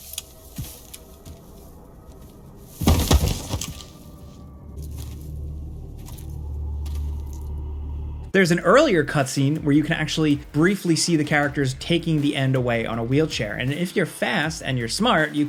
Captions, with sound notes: (tense music) (body thudding) (eerie music) There's an earlier cut scene where you can actually briefly see the characters taking The End away on a wheelchair. And if you're fast and you're smart,